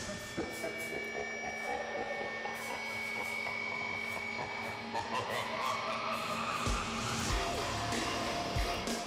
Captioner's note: evil laughter